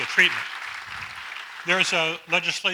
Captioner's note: audience applauds